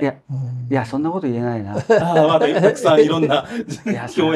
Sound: laughs

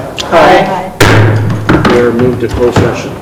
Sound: thumping

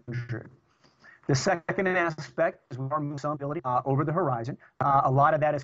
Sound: audio corruption

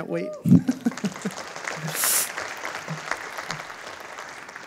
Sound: audience applauding

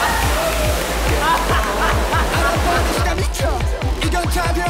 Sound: haha

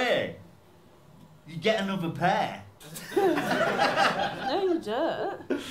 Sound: laughter

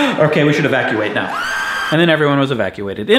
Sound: screams

